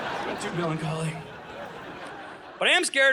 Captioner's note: audience laughing